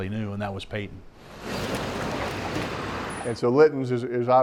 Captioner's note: truck drives